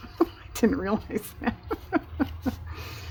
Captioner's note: laughs